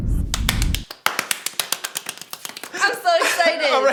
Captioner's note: clapping